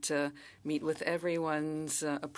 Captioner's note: speaking in French